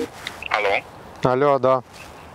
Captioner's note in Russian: Звонок